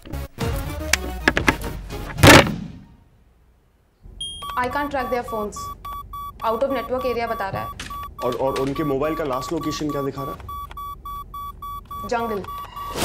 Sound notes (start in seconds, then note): 4.3 beeping; 10.4 beeping